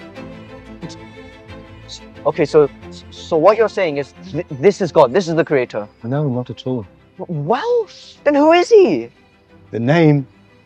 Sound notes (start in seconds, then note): 0.8 Saeed stutters